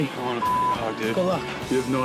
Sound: beep

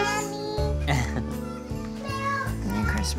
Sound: laughs

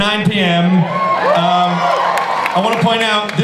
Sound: audience cheers

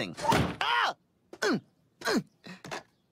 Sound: grunting

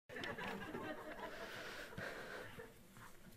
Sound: audience laughing

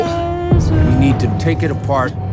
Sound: noise hit

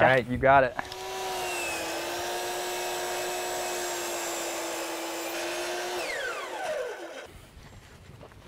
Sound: saw whining, no additional audio

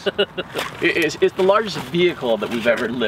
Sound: laughs

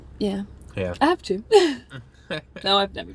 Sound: laughs

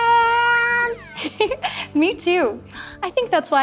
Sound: giggles

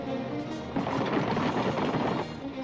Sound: suspenseful music; hooves pounding; suspenseful music

